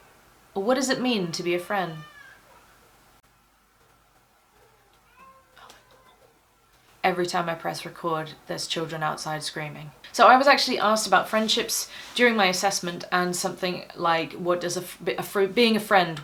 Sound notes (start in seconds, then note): 2.1 crying continues